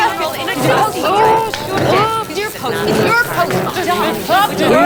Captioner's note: crackling